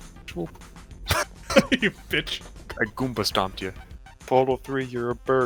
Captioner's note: laughs